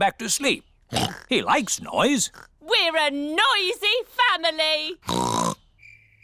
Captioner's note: oinks